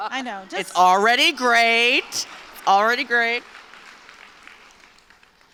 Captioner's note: applause